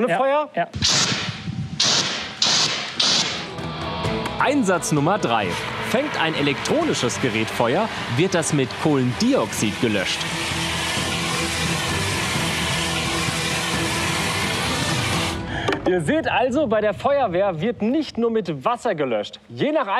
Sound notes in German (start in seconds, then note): 0.7 Rauschen